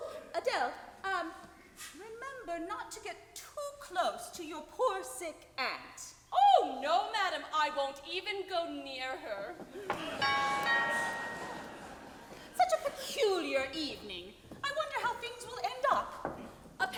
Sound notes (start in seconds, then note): 9.7 audience laughs; 10.2 doorbell rings